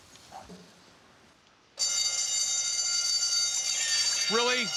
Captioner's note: bell ringing